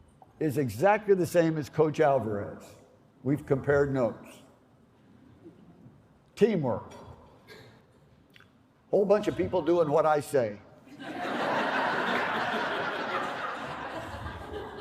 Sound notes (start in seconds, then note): 10.9 laughter